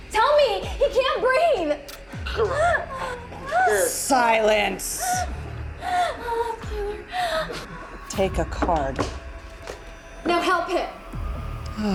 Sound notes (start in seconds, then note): 2.6 choking; 5.1 tense suspenseful music